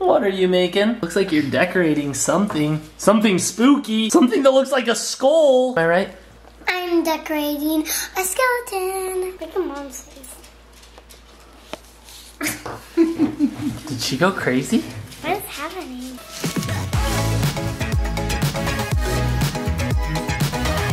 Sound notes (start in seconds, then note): 12.9 laughs; 16.5 upbeat techno music resumes